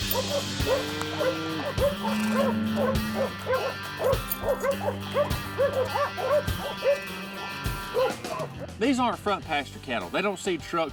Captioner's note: dogs barking